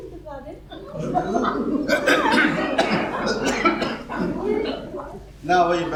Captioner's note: chokes